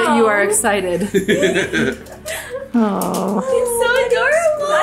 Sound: dad laughing

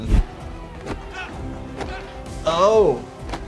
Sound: loud grunting

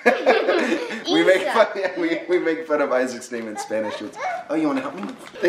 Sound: laughs

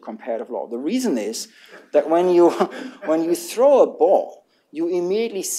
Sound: laughter

